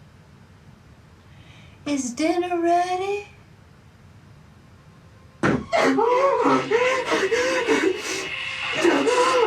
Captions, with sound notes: Is dinner ready? (Billy whimpering)